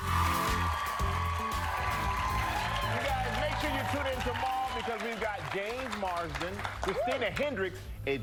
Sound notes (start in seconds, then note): 2.1 cheers and applause